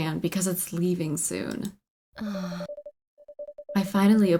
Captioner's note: sighs